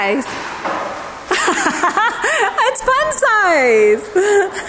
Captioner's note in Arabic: يضحك